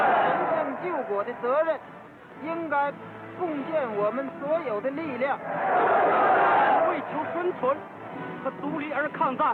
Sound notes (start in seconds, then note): 0.0 cheers; 2.0 speaking chinese; 5.4 cheers